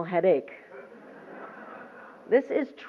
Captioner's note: laughter